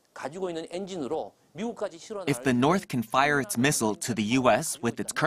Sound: Korean

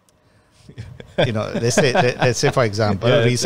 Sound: laughs

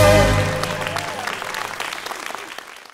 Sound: cheers and applause

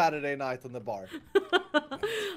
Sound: laughing

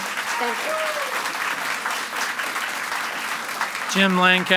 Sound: audience applauds and cheers

